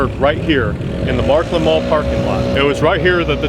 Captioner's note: annoying leaf blower recreates tornadic winds